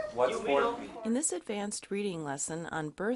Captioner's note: voiceover